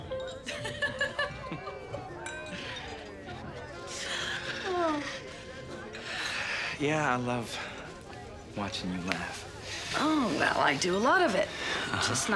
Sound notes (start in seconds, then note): 0.5 Emily laughing